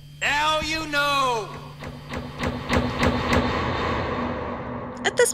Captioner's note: increasingly LOUD sound of overhead flourescents being shut off one-by-one